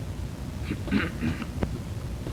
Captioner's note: clears throat